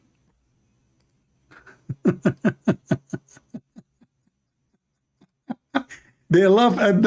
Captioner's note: Ketawa